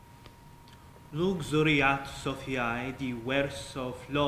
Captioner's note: speaking latin